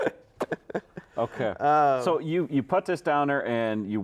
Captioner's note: laughs